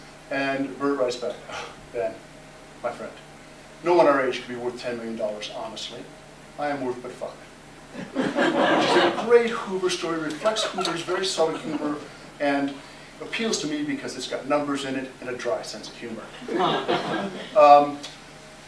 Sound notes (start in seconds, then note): 7.9 laughter; 16.4 laughter